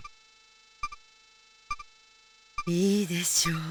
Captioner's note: silence